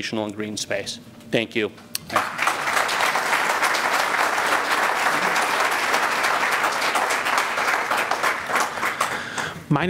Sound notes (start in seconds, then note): 5.3 applause